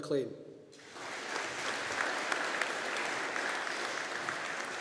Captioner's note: audience applauding